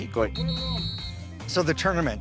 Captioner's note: whistle blows